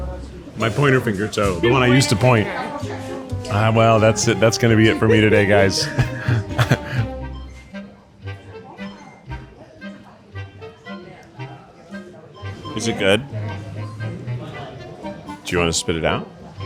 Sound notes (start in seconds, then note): 5.1 chuckles; 5.7 laughing; 8.1 gentle playful music; 8.1 people chattering